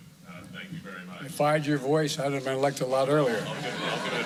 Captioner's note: laughter